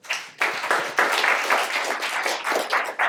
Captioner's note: applause